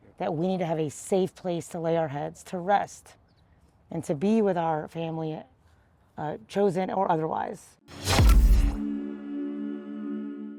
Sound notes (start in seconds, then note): 8.0 air whooshes; 8.0 bright music